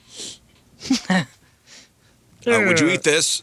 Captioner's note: laughter